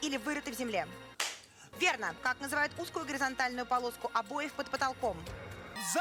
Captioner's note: Hikakin's handclap